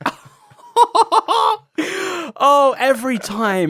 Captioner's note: laughs